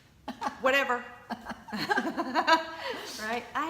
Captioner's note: laughing